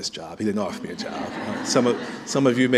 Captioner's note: laughter